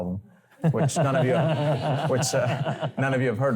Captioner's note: laughter